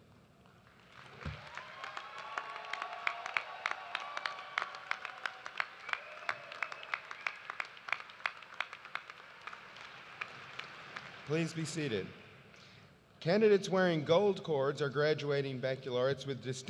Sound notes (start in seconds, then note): 5.6 cheers and applause